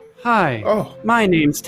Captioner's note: groans